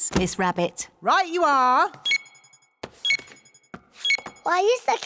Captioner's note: beeping